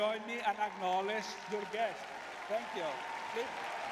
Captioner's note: applause